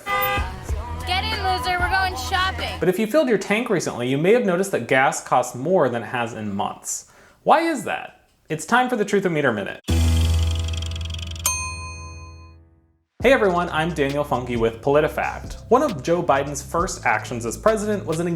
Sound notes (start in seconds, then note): 0.0 car horn honks; 9.8 upbeat music; 10.3 bell dings